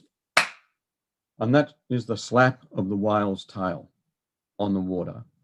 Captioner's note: hands clap